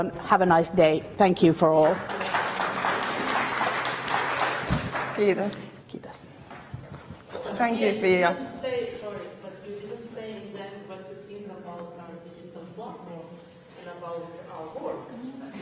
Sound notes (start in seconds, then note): 1.7 clapping